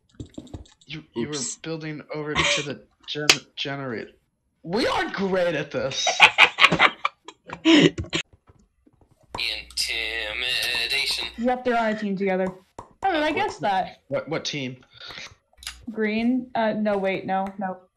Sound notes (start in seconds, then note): 5.9 tired laughter; 9.8 singsong